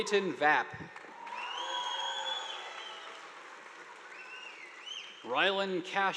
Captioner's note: audience applauding; students cheering